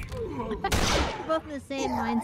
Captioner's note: gunshot